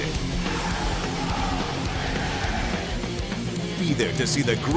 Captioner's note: crowd cheering